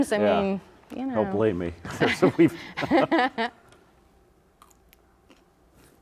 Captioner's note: laughs